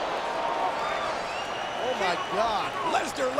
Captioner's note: audience cheering and clapping